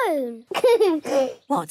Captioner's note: giggles